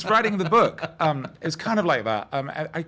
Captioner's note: laughing